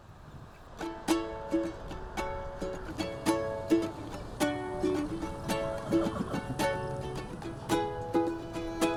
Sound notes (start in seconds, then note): 0.9 bright acoustic guitar; 5.9 horse whinnies